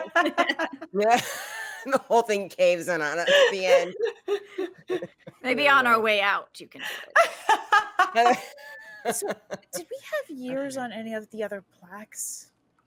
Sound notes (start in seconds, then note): 0.0 laughing; 7.1 both laughing